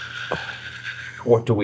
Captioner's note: imitates Mary